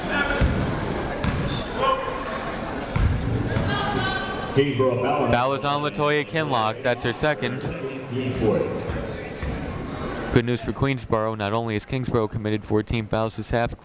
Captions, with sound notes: (people shouting in the crowd) Foul is on Latoya Kinloch. That's her second. (people talking in the crowd) Good news for Queensborough. Not only is Kingsborough committed 14 fouls this half,